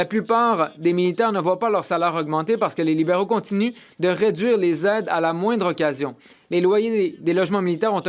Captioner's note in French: voix de l'interprète